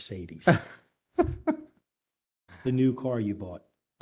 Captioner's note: laughter